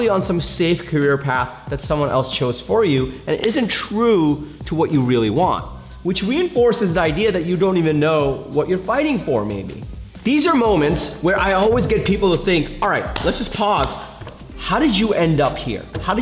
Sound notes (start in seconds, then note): 13.0 hands clapping